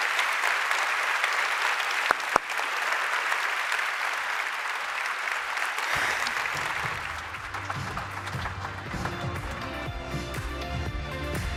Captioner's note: applause